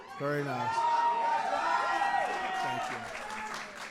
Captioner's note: applause